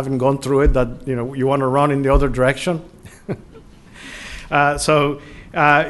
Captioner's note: laughter